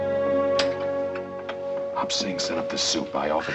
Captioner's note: whispering